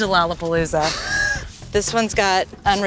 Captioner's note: laughter